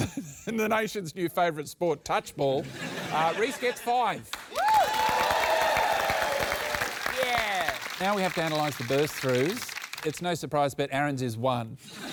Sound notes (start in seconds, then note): 4.4 cheering, applause